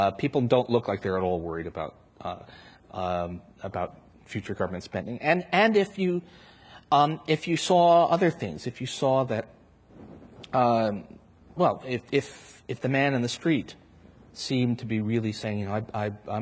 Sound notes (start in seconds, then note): none